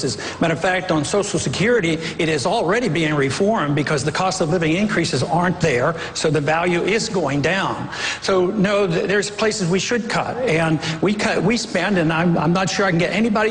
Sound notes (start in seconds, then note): none